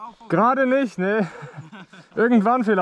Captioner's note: laughter